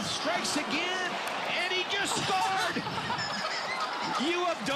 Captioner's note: laughter